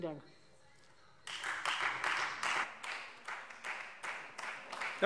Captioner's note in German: Beifall